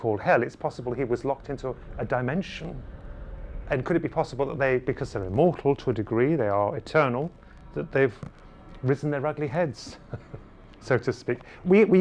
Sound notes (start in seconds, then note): 9.8 laughs